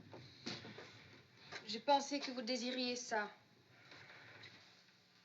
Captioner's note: speaking French